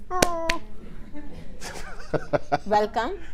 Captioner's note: claps; laughing